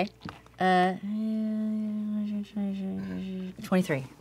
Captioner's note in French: calcul marmonné